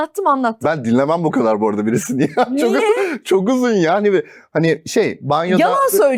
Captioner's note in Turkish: kahkaha